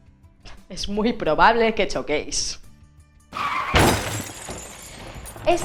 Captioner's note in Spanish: sonido de coches chocando